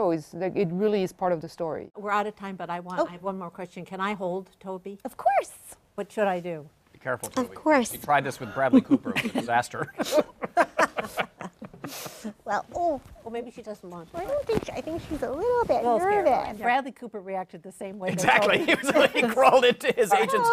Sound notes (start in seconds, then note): 8.5 laughter